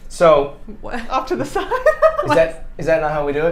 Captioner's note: laughing